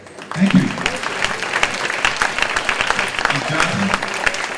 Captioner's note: clapping